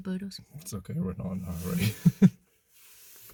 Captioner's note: laughs